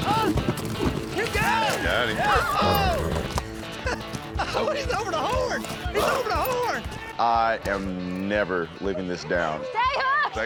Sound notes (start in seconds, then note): 2.2 chuckling; 3.3 horse neighs